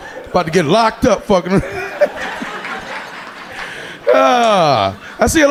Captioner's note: audience laughing